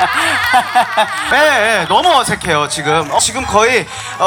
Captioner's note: awkward laugh detected